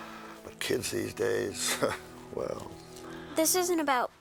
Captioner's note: chuckles